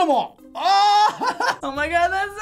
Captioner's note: laughing